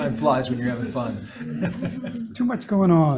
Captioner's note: people laughing